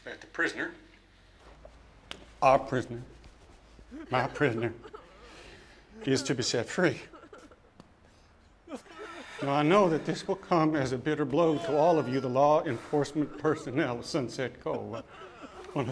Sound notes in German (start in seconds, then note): 3.8 Menge schluchzt; 8.8 Schluchzen